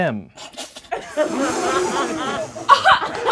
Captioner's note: laughing